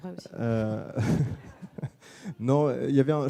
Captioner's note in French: rires